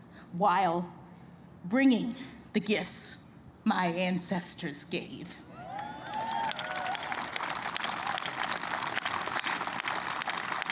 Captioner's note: applause